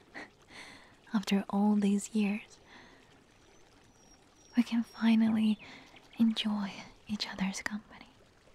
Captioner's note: chuckles